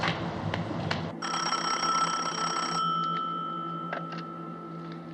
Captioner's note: ringing